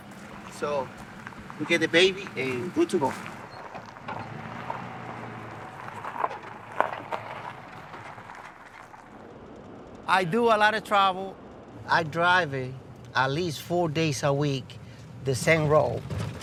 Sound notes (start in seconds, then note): 2.5 tires crunching; 5.7 engine humming